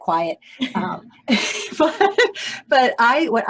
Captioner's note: chuckles